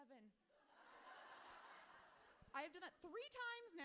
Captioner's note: audience laughing